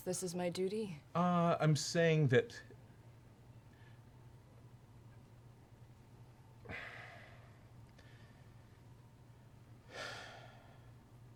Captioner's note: long pause